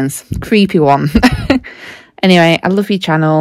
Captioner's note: girl laughs